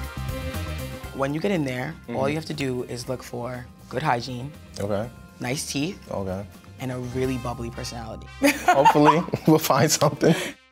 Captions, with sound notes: - When you get in there, all you have to do is look for good hygiene. - Okay. - Nice teeth. - Okay. - And a really bubbly personality. (laughs) - Hopefully we'll find something.